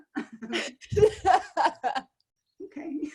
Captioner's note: laughs